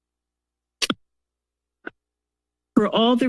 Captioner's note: pause